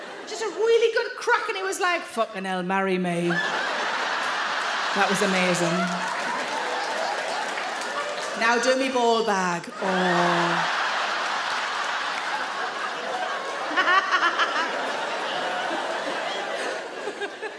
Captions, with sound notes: Just a really good crack and he was like, "f*cking hell, marry me." (audience laugh) That was amazing. Now do me ball bag, oh! (audience laugh loudly) (Sarah laughs)